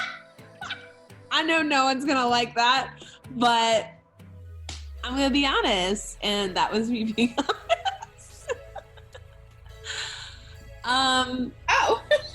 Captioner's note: laughter; laughter